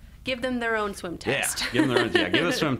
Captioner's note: laughs